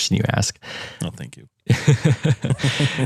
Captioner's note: laugh